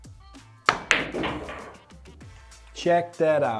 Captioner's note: pool balls hitting